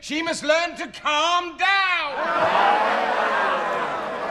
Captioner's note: soundbite of laughter